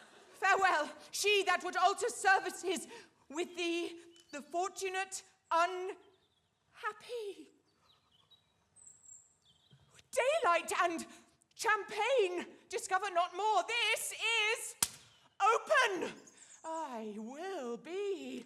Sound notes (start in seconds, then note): 14.8 paper slapping